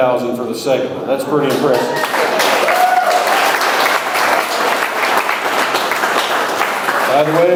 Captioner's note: audience cheers; audience applauds